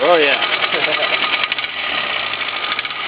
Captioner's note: chuckles